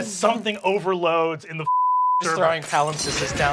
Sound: beep

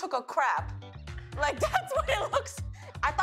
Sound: laughs

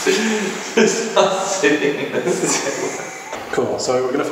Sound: laughing

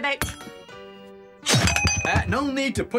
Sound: thunk!

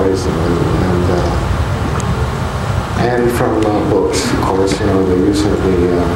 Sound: mutters

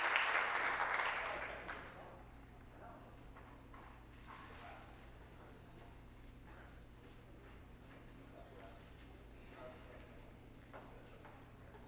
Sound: some Applause

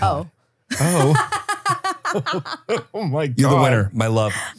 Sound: everyone laughs

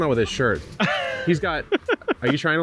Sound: laughing

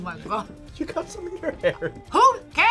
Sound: laughs

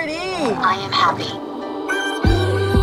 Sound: recorded voice

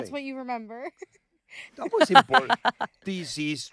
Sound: laughing

